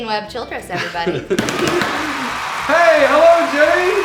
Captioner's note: audience cheering